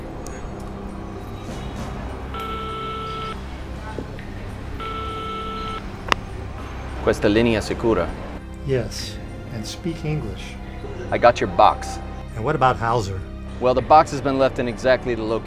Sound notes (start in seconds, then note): 2.9 phone beeping; 7.2 agent speaking foreign language